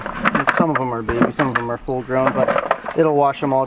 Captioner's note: carrots tumbling